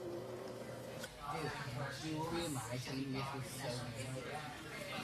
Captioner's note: patrons talking